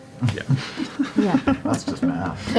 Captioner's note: laughs